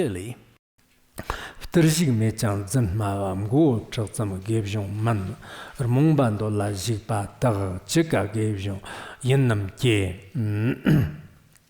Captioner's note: giving oral transmission in Tibetan